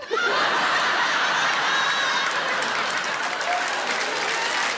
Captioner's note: crowd laughing